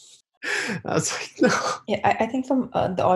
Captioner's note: laughs